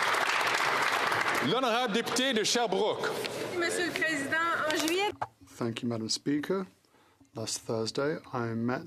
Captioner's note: some Applause